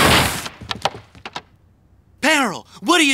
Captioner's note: crashing